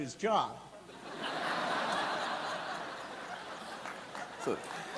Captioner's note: audience laughing; audience clapping